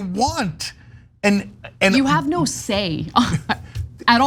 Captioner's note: laugh